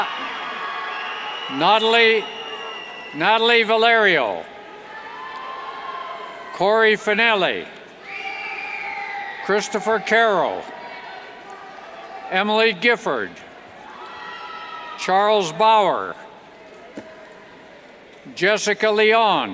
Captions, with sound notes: Natalie Vallerio, (cheers) Kory Fanelli (cheers) Christopher Caro, Emily Gifford, (cheers) Charles Bower, Jessica Leon, (cheers and applauds)